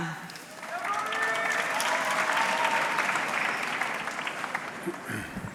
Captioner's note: audience clapping